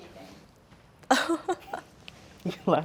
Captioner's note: laughing